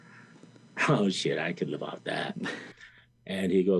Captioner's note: laughs